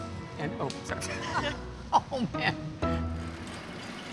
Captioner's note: laughter